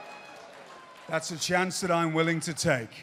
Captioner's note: cheers and applause